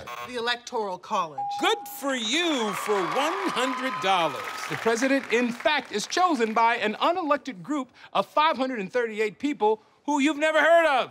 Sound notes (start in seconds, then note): 0.0 buzzer; 1.4 ding; 2.0 cheers and applause